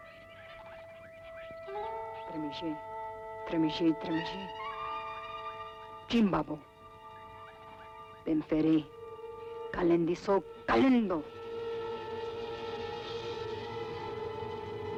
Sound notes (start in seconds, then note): 0.1 mysterious music; 2.4 chanting in foreign language; 11.8 mysterious music